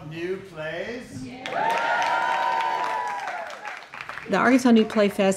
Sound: applause; cheering

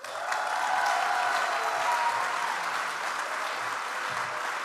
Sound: audience applauds

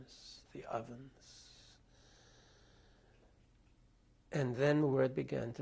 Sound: pauses for 3 seconds

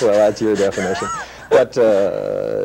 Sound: laughter

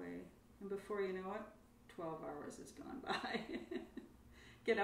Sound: laughs

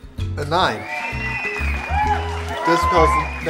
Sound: audience cheering

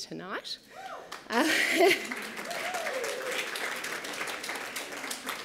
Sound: cheering and applause

